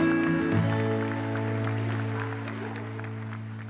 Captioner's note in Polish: aplauz